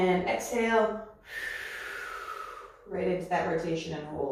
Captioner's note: exhales